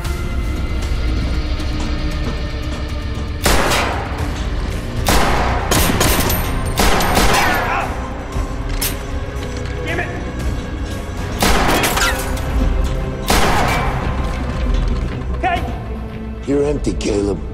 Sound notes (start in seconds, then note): 3.1 gunshots; 9.3 gun clicks; 11.2 gunshots